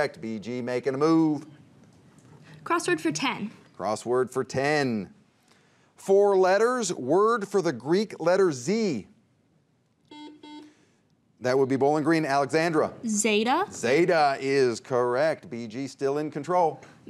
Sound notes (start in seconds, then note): 10.0 buzzer beeps